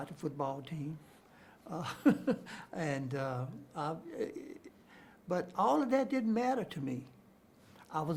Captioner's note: chuckles